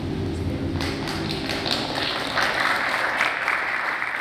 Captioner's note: Aplauso; applause